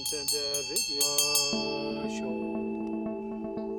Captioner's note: ringing bell and chanting